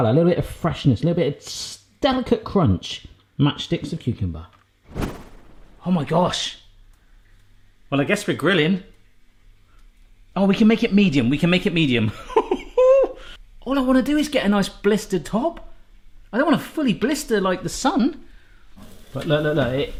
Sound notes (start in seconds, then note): 13.1 laughs